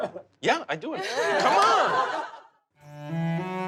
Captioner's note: laughter